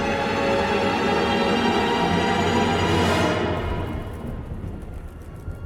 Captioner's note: thunder booms, eerie music